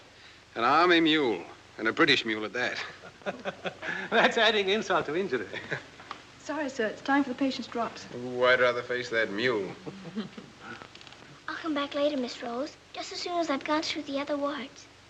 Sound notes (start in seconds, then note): 2.8 laughs